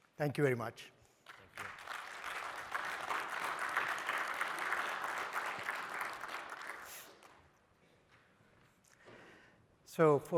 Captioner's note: applause